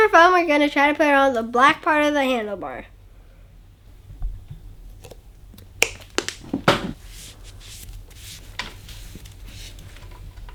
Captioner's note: bottle top closing